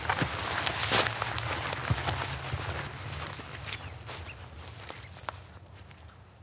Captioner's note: footsteps